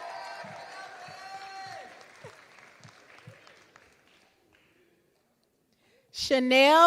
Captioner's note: applause